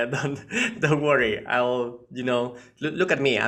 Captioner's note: chuckles